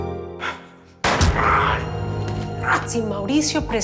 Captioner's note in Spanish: Disparo